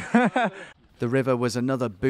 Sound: laughs

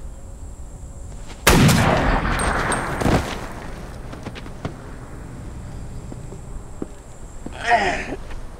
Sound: gunshot; moaning

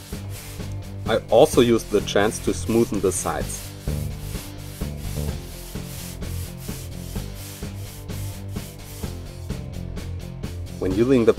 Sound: grinding

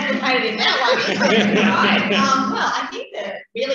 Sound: laughing

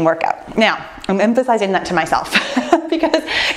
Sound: laughs

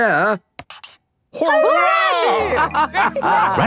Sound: all laughing

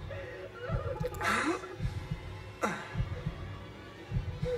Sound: sobs; groans

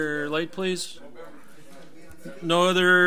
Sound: overlapping chattering

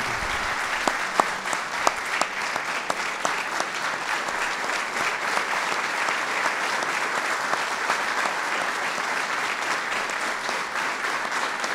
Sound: applause

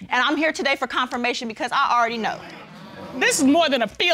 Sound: audience murmuring

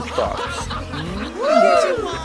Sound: laughter

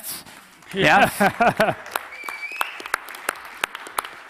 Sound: audience clapping

